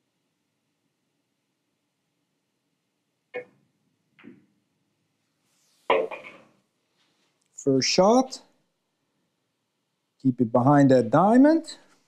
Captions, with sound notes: (balls clanging) First shot, keep it behind that diamond,